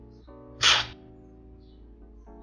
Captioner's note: slurping